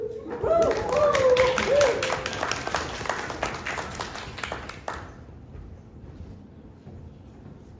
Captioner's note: applause